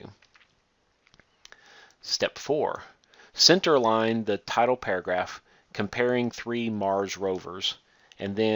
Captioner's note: click